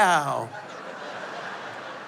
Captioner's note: laughter